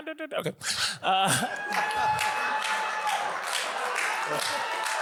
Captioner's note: audience applauds